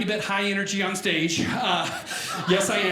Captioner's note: audience laughing